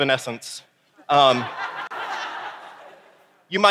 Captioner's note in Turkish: Gülüşler